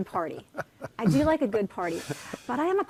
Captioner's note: laughing